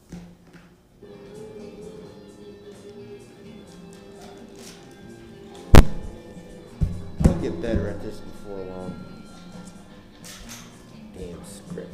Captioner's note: sounding gavel